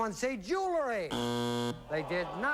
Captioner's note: buzzer